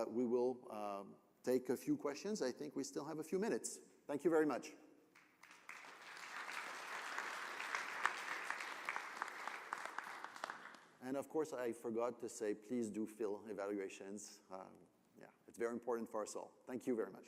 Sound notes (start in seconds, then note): 5.1 applause